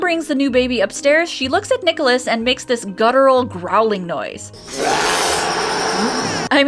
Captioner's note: baby growls